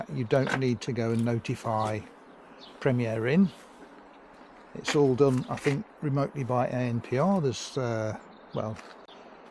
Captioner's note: cameras